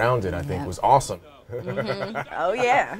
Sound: laughs

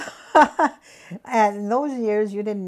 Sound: laughs

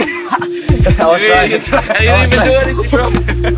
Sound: laughing

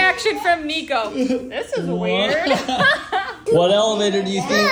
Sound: laughs

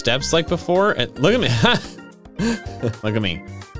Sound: jaunty keyboard music; laughs

